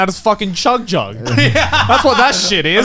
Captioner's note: Garnt laughing